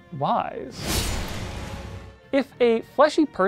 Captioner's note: double crunch